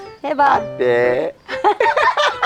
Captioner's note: bisaya slowly speaking; both laughing